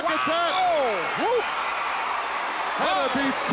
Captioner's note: audience cheering